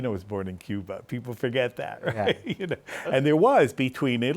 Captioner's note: laughs